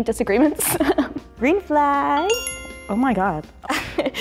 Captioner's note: bell dings